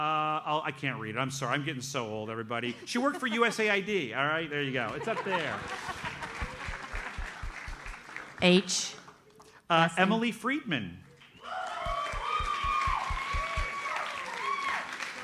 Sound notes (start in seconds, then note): 4.9 audience laughs; 11.4 audience cheers and applauds